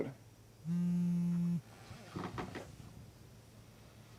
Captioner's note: phone vibrates